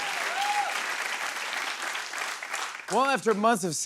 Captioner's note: applause